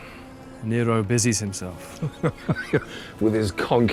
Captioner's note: laughs